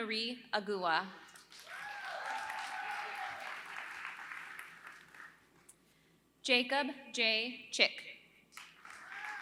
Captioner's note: applause; applause